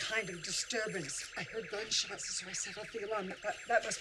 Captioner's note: phone ringing